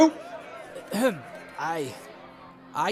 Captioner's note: clears throat